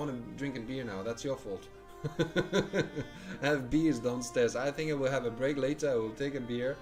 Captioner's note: laughs